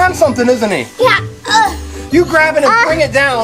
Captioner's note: grunts